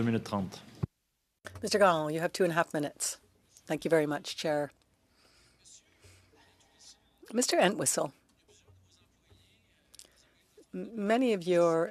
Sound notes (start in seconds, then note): 9.6 speaking French